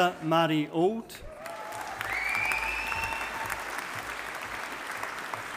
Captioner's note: audience applauding